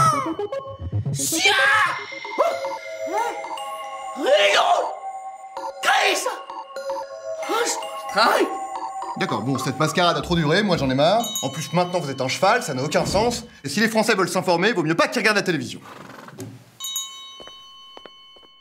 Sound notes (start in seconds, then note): 1.3 scream; 4.2 shout